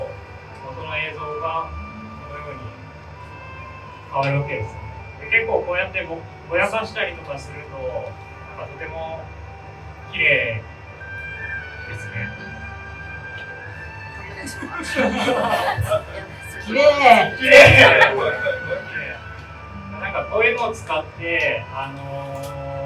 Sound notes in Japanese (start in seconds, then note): 14.3 会場：笑